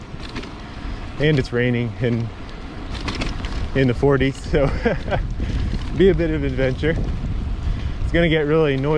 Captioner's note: laughing